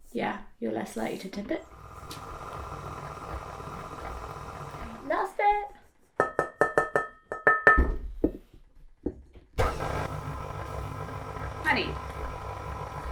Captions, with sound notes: - Yeah, you're less likely to tip it. (mixer whirring) Last bit. (metal clanging) (mixer whirring) Honey.